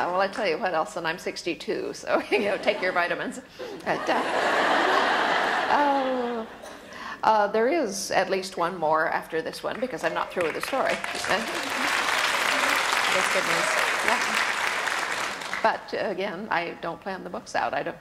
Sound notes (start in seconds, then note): 3.8 audience laughter; 10.0 audience applause